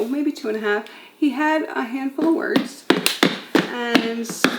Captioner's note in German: mit den Füßen stampfend